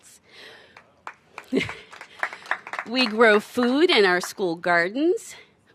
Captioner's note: applause